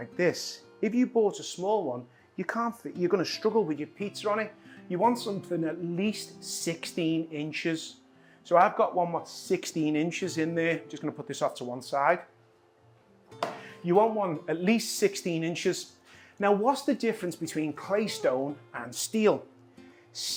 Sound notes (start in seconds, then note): none